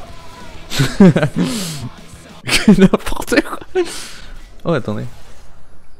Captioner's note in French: Rire